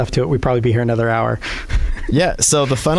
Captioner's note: laughs